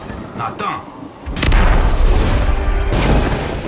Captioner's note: Iron Man speaks in Lakota; rockets blasting; thunder booming